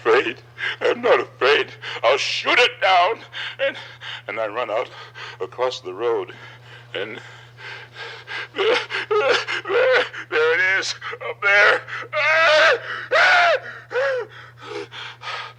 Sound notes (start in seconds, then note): 11.2 Barney wailing